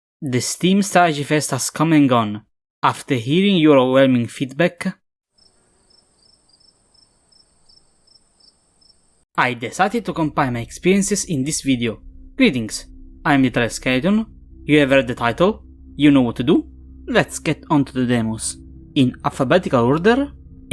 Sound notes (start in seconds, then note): 5.4 crickets